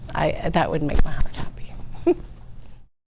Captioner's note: chuckles